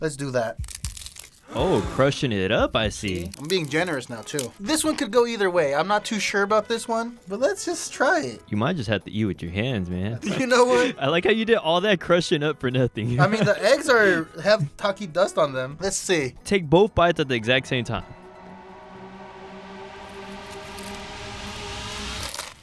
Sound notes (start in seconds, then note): 0.1 Takis crunch; 19.1 dramatic music